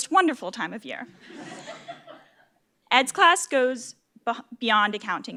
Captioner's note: laugh